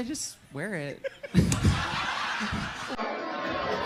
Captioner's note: audience laughs